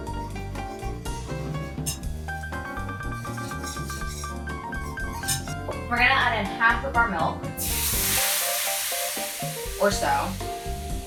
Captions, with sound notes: (stirring) We're gonna add in half of our milk, (sizzling) or so,